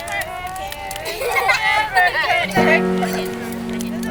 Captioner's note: group indistinct chattering and singing; uplifting music